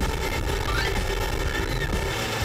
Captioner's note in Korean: 으아아악!